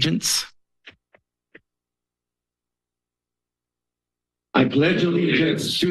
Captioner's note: silence